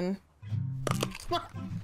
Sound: loud crunch; chuckles; mouth full

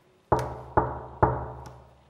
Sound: knocking

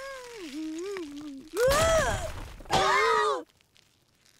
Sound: screams, groans

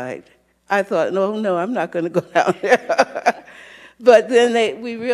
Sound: laughing

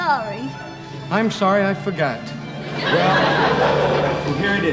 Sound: audience laughing

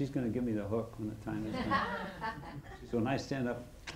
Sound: laughing

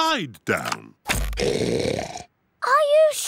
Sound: oinks loudly

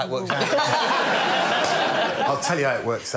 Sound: laughter

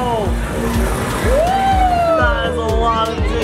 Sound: cheering

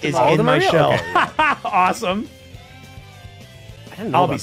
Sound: laughs

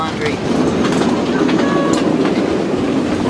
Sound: loud wind

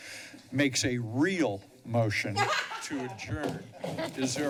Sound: laughs

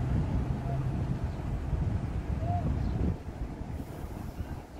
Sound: muffled yelly sounds

